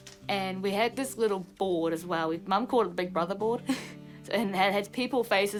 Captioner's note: laughs